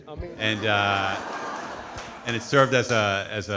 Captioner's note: audience laughing